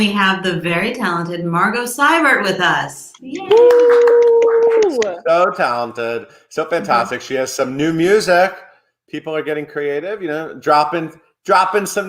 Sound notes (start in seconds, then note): 3.2 clapping